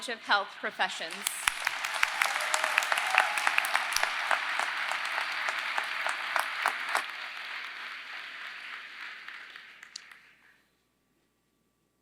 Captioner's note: applause